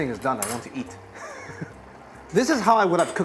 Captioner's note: laughs